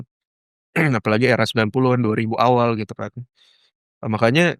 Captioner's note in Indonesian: berdehem